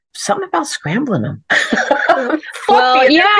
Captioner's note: laughs